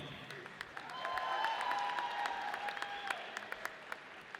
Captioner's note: audience cheers